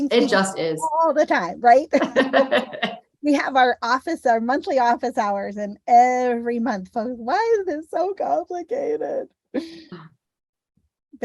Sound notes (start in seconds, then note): 1.9 laughter